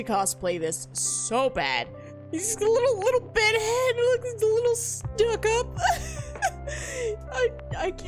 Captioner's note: laughs